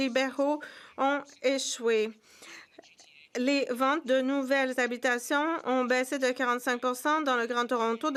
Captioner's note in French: voix de l'interprète